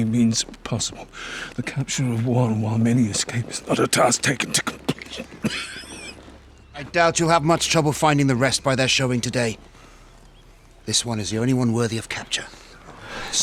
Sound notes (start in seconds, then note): 6.4 coughs